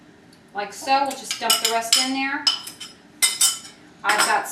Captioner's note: spoon clatters